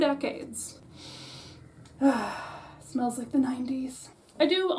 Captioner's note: sniff